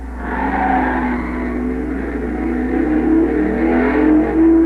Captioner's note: tires squealing